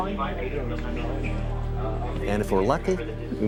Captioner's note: murmurs